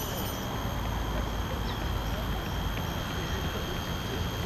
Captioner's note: cars in the distance